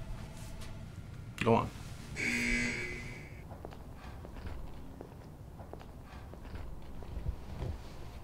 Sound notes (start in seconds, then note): 2.1 prison door buzzing